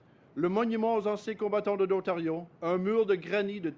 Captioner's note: speaks French